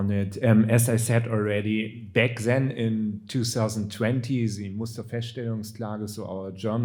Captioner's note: speaking German